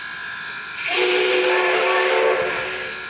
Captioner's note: whistle